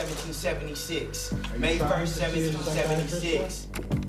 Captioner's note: indistinct chatter